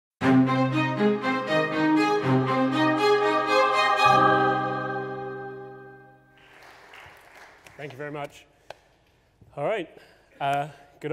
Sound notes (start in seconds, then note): 0.2 dramatic string music; 6.2 audience clapping